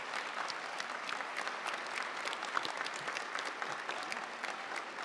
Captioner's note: audience applauding